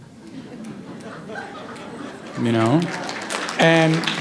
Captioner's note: applause